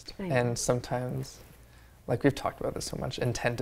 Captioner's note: none